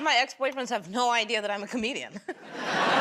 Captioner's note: laughter; chuckles